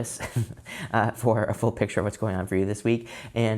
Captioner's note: laughing